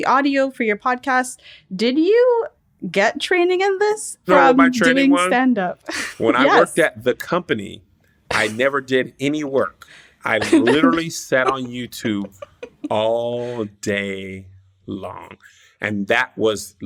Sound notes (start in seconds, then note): 5.9 laughs; 10.3 laughter